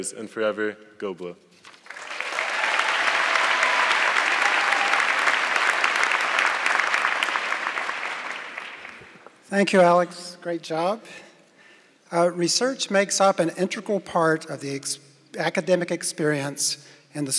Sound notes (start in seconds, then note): 1.6 audience clapping